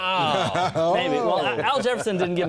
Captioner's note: laughter